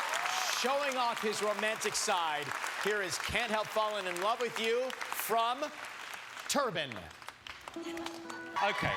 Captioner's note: applause